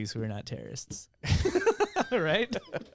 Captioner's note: laughing